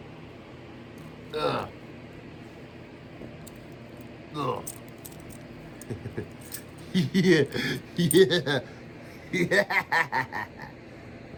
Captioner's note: Ella grunts, then an evil laugh